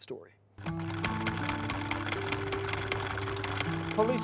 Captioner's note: sewing machine whirring